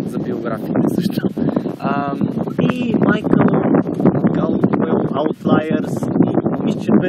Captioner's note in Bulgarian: чува се вятър